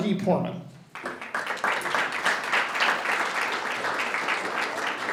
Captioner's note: audience applauds